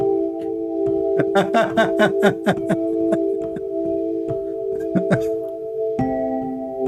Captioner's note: Ketawa